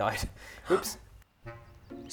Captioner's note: gasp